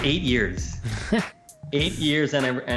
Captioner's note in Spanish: Risas